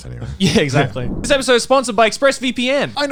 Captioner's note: screen warping